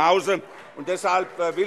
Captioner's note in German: Vereinzelter Beifall